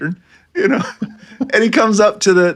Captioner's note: laughing